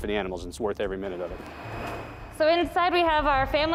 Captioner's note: machine screaming